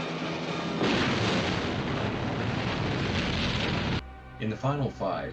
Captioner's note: explosion